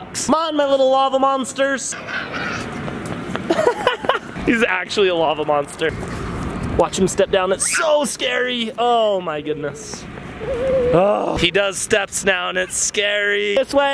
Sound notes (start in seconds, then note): 2.0 growls; 3.6 laughs